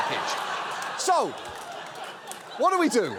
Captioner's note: audience laughs